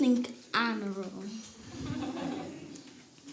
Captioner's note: audience laughs